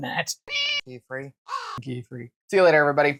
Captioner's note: meow; caw